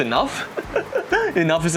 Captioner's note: nervous laugh again